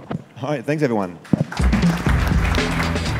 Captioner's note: applause